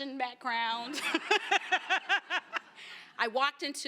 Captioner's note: laughter